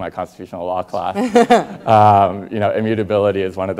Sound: Rachel laughing

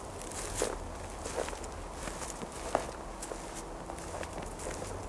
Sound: footsteps

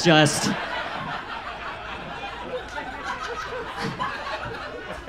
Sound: audience laughs

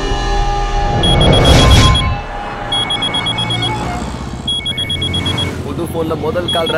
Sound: phone rings

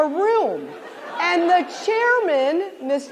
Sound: laughter

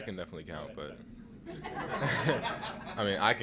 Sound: laughter

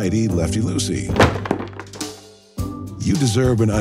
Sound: wheels thwacking

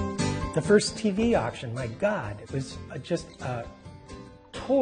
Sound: voiceover

